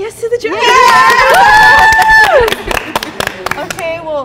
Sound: cheering

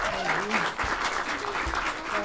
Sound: applause

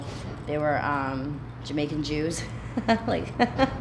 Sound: laughing

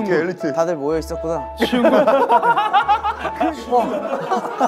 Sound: group laughter

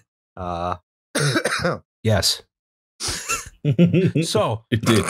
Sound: coughing; laughter

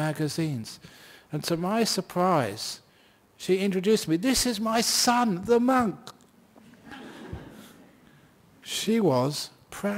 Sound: laughter

